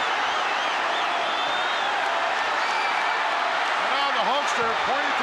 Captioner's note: crowd cheering